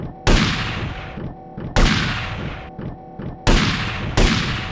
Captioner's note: gunshots